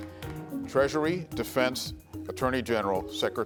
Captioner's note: bell sounds